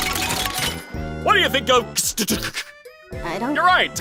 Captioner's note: stammers phonetic sounds